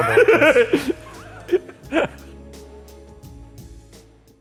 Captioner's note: laughing